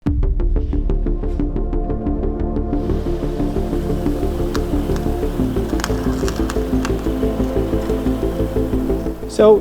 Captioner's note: gravel crunching